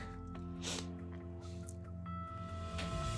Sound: sniffles

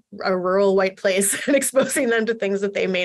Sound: laughter

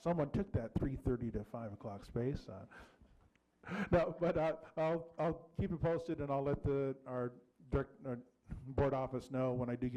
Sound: laughing

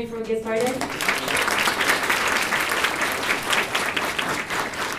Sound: audience claps

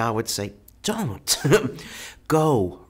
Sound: laughs

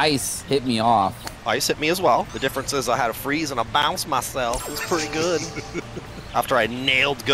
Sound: laughter

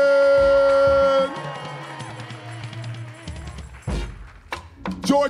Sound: audience cheering

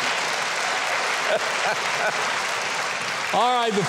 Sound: audience applauding

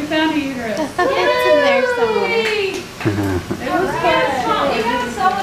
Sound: cheering

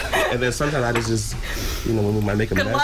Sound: laughter

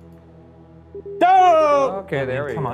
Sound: video game screen beeping

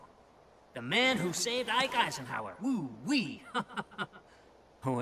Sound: chuckle

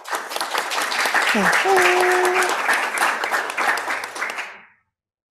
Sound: applause

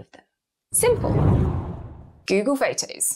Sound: air whooshes

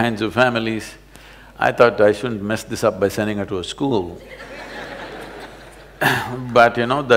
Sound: laughter

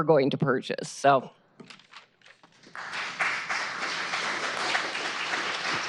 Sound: applause

